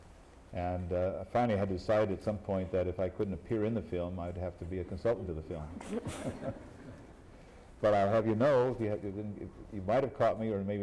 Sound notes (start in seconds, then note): 5.7 laughter